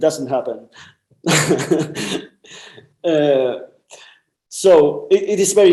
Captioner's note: laughs